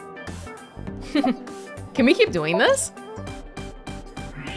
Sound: chuckles

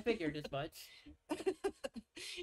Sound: laughs

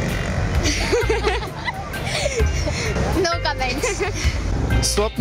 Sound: laughter

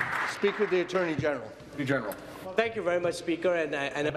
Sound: applause

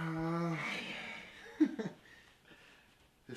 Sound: laughter

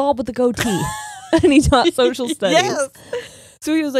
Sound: laughs

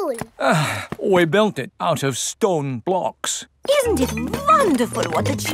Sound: sighs

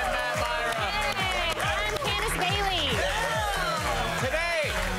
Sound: applause

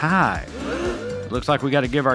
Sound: audience gasps

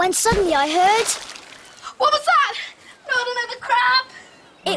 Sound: water splashes

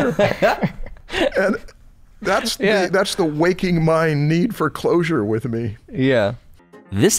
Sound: laughter

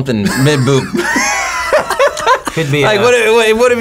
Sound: both laugh

